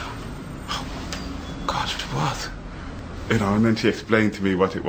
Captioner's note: whispers & gasps